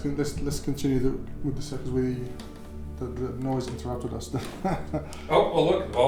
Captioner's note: chuckles